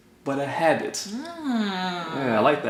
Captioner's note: grunt of approval